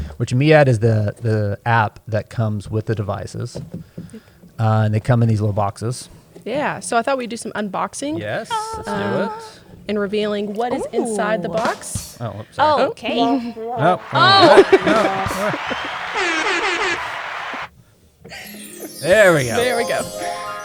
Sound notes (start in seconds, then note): 13.6 sound effects